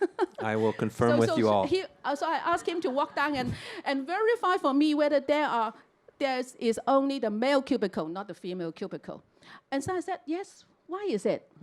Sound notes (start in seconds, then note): 2.0 audience laughter